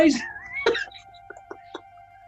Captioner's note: giggling